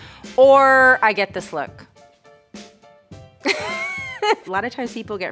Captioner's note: giggles lightly